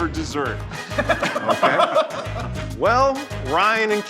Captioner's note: laughing